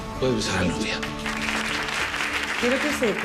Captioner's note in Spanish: Aplausos